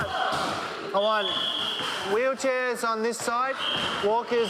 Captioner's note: shouting and a whistle blowing